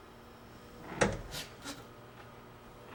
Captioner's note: creak